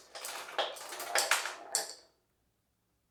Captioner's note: levers go kachunk and marbles go click click